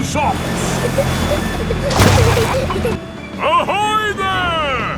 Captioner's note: peppa and george giggling